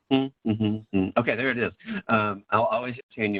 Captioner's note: humming